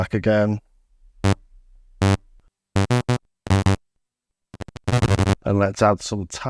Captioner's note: buzzing